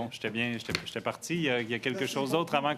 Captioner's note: speaking French